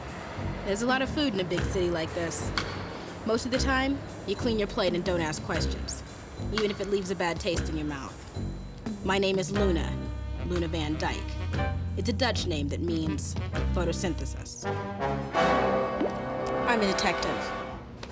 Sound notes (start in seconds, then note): none